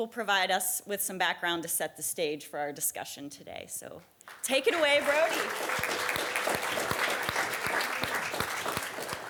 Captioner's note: applause